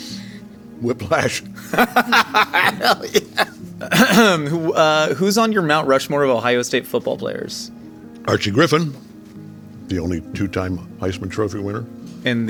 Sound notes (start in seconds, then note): 1.6 laughing